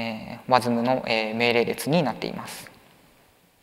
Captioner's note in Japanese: none